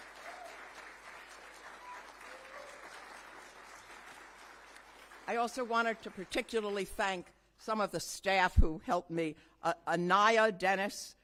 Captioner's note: applause